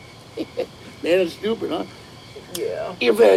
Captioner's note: laughs